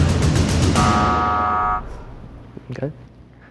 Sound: buzzer ringing

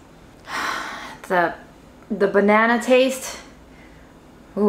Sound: sighs

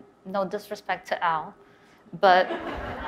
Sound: audience laughs

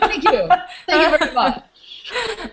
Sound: laughter

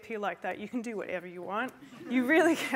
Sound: laughter

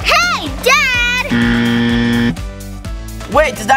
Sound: buzzer ringing

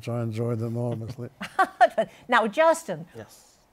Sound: chuckles

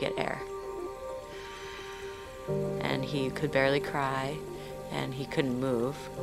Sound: strained breathing

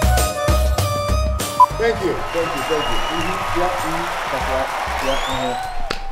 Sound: crowd cheering

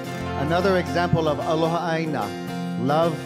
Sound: speaking in Hawaiian

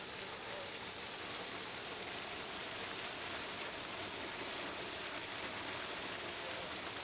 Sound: sound of gushing water

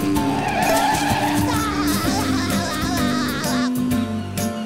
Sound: laughs

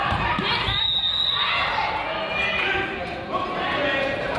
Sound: whistle blows

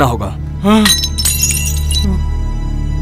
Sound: thuds

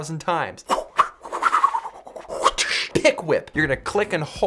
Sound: whipping noises

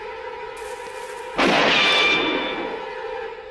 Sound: gunshot

